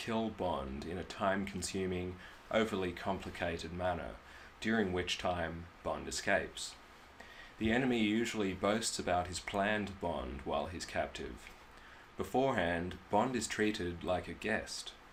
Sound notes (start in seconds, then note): none